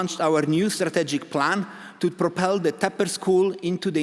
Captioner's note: none